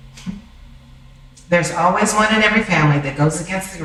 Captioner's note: laughing